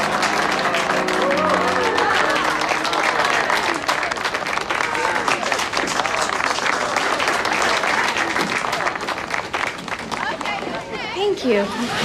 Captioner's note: crowd applauding